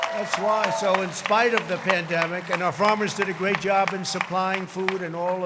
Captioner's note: crowd cheering